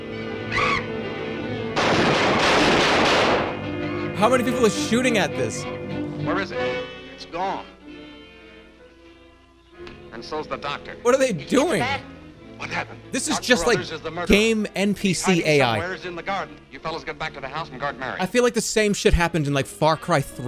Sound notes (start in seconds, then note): 1.7 gunshots